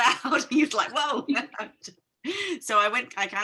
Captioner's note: chuckling